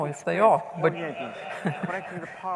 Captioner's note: laughter